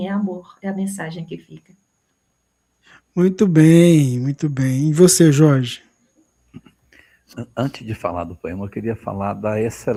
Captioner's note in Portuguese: limpando a garganta